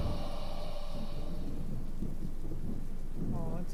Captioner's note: ghostly wailing ends